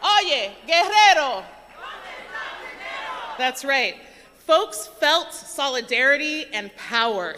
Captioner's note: speaking non-english language